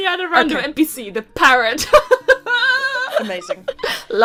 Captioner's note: laughs